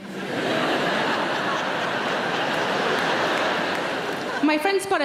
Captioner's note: audience laughing